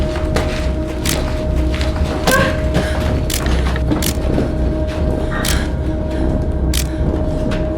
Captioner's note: eerie music; camera clicking